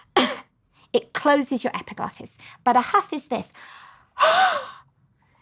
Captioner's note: coughs; huffs